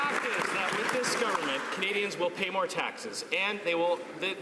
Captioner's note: some Applause